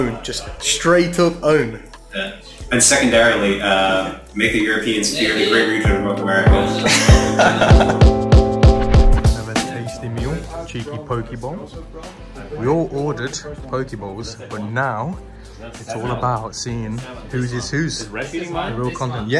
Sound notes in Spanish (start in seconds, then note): 6.7 Ambos se ríen